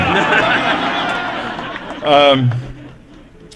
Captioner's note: laughter